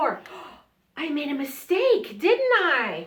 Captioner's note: gasp